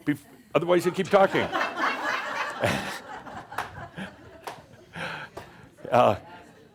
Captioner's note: laughter, as running back and forth